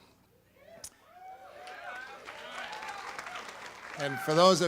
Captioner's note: audience applauds